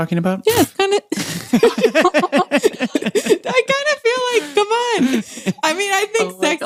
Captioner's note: laughs